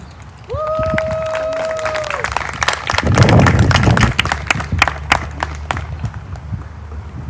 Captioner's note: applause